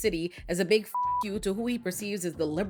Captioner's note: beep